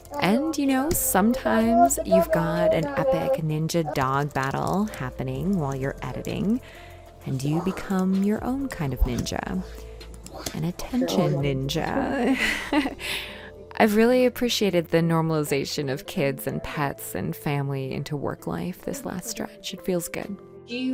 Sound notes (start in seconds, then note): 11.7 giggles